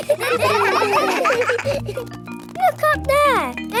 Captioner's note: children laughing